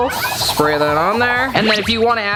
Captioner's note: olive oil can hisses